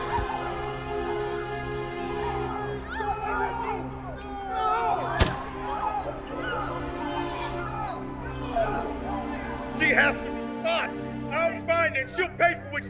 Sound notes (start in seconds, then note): 0.0 popping; 0.0 crowd panicking; 5.2 popping